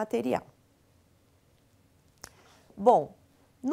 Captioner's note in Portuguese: silêncio